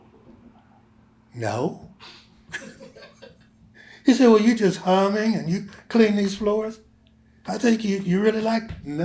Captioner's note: laughter